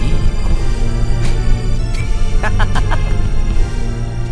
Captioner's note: laugh